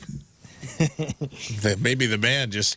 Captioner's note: laughing